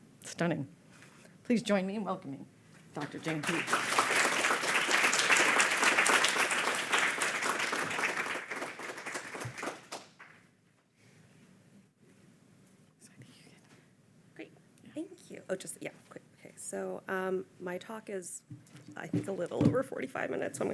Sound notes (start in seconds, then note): 2.9 audience applauding; 13.1 faintly speaking